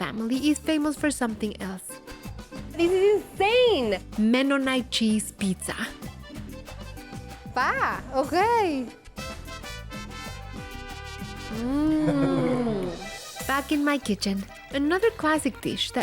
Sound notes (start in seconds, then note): 7.4 speaking Spanish; 11.9 laughter